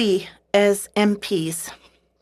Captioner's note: speaking French